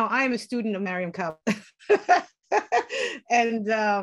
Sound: laughter

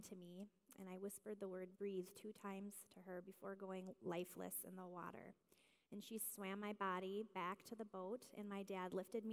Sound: none

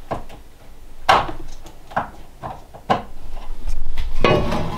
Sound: counter thumping; skillet clanging

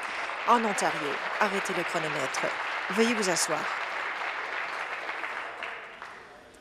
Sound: applause

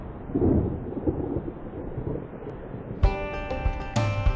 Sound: wind whooshes; thunder rumbles; upbeat music

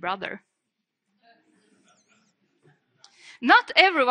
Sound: audience chuckles

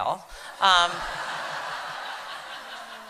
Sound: laughter

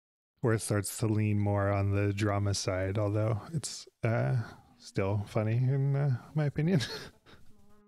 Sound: chuckles

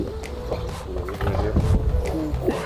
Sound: truck scrapes

